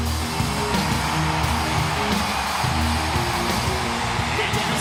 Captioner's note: crowd cheering